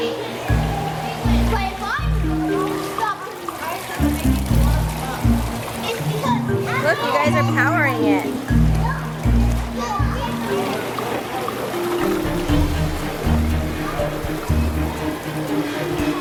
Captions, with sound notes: (water splashing) Look, you guys are powering it. (light music)